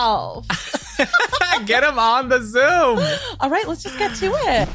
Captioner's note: chuckles